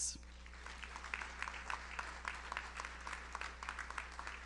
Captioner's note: audience applauds